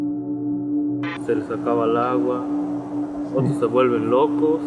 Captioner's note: speaking spanish